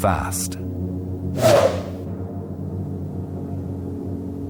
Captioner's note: whooshing